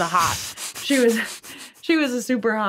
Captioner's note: chuckling